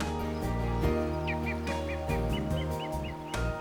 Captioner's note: birds calling